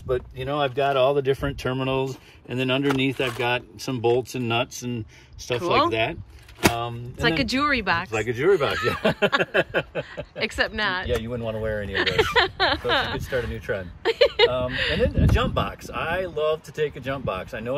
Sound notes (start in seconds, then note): 8.6 laughs